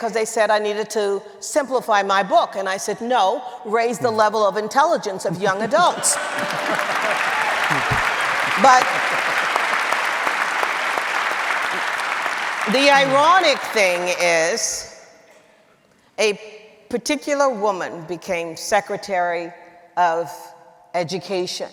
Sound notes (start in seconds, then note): 6.8 audience cheering